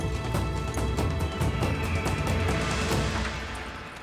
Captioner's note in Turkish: Kartal ötme sesi